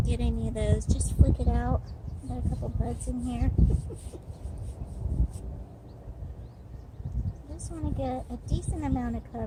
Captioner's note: laughing